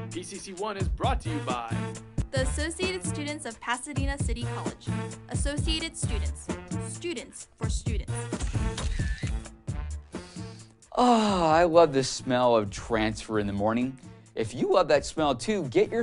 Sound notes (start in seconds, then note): 10.1 long sniff